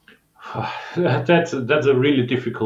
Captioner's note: sighs